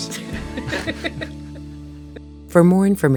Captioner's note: laughing